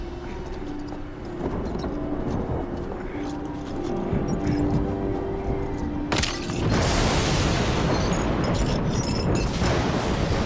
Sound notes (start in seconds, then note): 0.2 ominous music; 6.4 lightning crashes